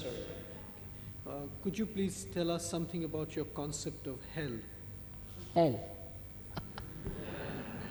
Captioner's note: shri mataji laughs